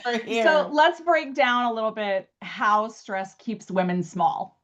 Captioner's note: laughs